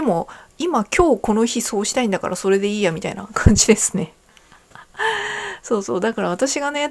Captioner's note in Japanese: 息をのむ音